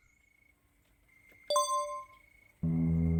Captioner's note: ding